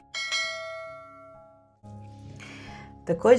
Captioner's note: bells